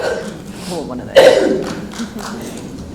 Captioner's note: coughs